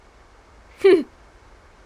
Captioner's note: chuckles